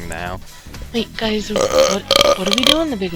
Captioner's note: burp